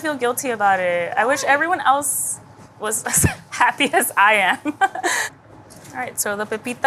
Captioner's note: laughs